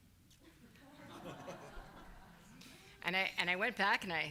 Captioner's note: laughing